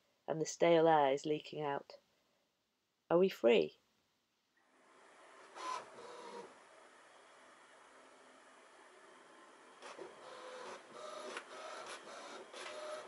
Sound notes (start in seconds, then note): 5.5 printer grinding